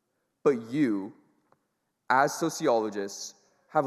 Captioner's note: none